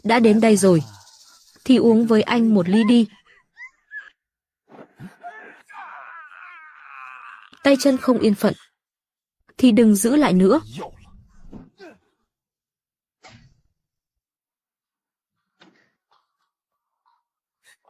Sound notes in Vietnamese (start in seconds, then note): 5.1 la hét